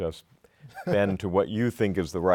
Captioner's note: laughter